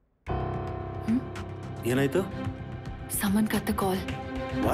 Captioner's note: automated voice